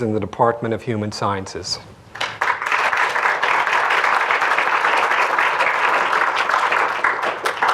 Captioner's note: applause